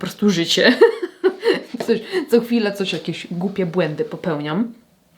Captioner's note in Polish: śmiech